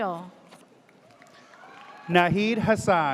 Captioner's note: audience cheers